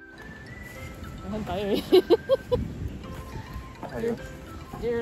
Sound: laughs

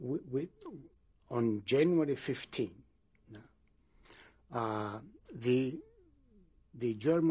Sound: pauses for 3 seconds

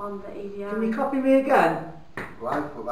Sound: knocks

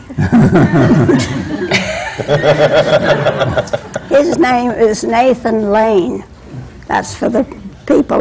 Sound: laughter

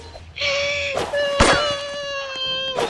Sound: crying

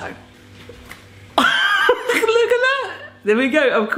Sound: laughing

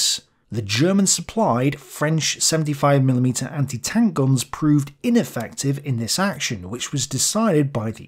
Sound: French

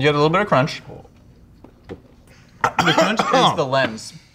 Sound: coughing

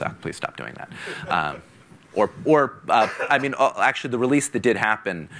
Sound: laughing

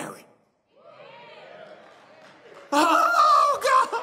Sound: audience clamors

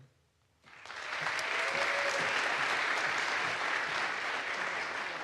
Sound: audience applauds

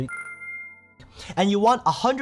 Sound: tone dinging

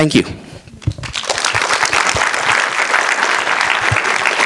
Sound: applause

